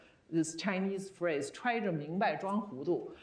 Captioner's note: speaking Chinese